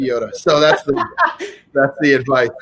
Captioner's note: laughing